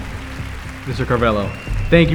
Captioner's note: audience applauding